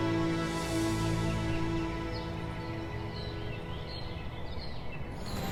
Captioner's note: birds chirping